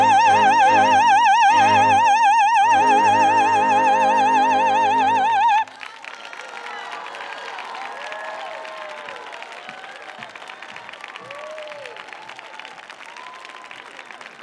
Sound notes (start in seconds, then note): 5.0 audience applauding; 6.3 audience cheering